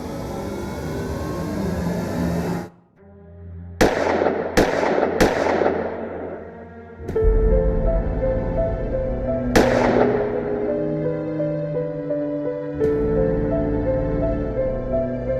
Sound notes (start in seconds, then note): 3.8 gunshots banging; 7.8 somber music